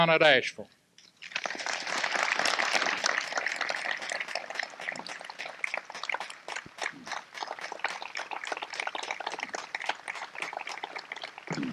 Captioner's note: applause